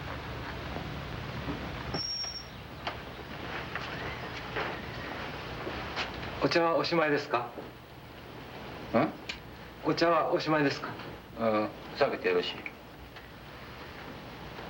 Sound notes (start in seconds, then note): 6.2 speaking foreign language